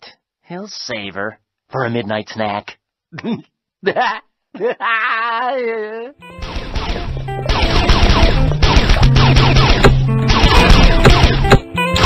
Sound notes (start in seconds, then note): 2.9 laughing